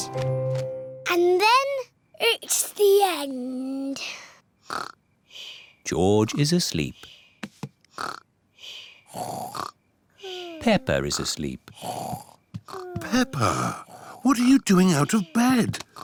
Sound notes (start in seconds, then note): 4.7 snores; 9.1 snores